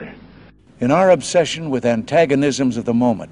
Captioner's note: voiceover